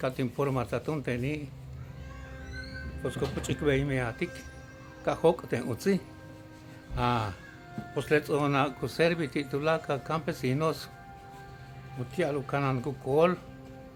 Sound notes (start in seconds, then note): 8.1 continues speaking in Mayan